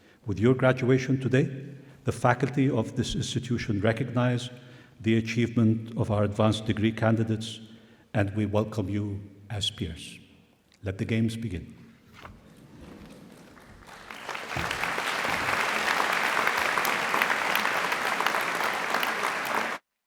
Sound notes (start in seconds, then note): 13.5 applause